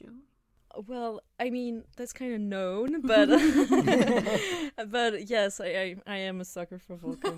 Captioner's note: laughter